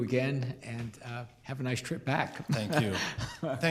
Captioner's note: chuckles